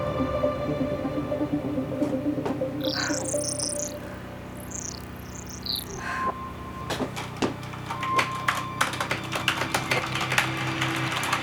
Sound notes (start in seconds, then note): 7.6 keyboard clacking